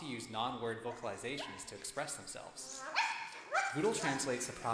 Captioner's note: barking